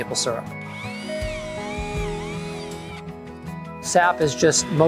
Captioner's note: drill whirring